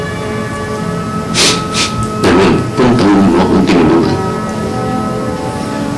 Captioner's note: Ben sniffles